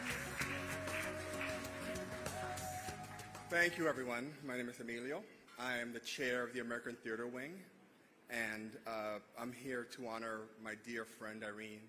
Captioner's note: applause